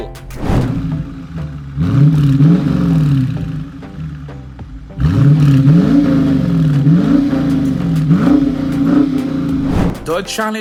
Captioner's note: muffler rumbling